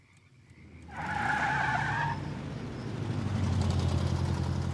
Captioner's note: tires squeal